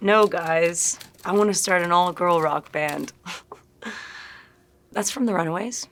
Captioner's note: chuckling